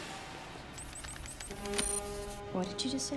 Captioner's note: coading Noises